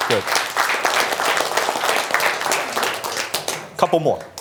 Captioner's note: applause